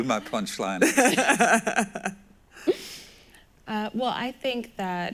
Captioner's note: laughs